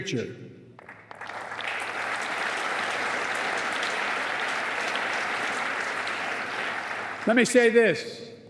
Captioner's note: applause